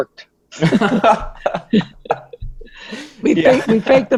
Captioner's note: laughing